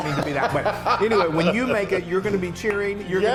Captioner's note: laughs